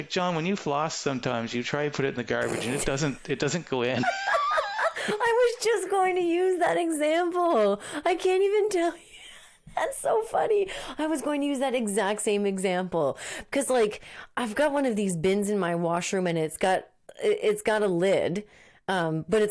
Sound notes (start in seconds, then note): 4.0 laughing